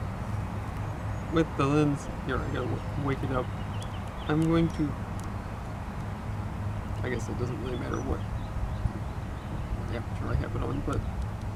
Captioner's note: changing settings, button clicks, muttering